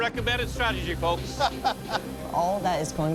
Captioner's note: laughter